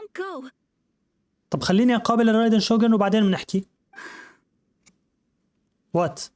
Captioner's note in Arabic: تنهدات